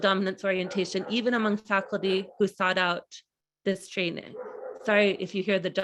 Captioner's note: dogs barking